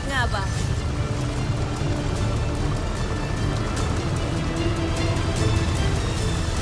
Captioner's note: music swells; powerful whoosh-crackle